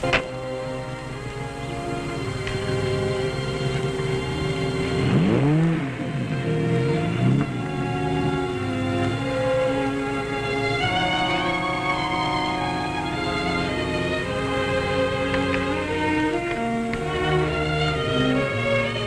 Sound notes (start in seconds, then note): 0.3 gentle instrumental music; 5.3 engine revving